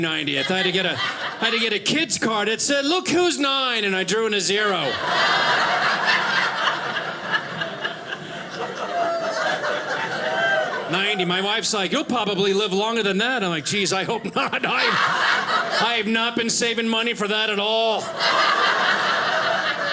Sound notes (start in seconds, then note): 3.9 audience laughing; 17.9 audience laughing